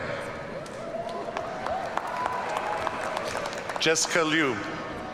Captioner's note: audience cheering